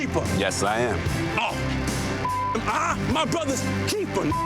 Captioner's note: beep